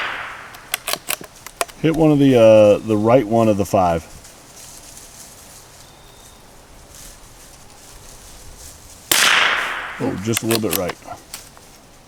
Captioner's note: gunshot; gunshot